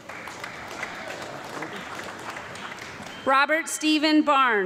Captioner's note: audience clapping